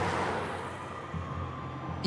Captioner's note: siren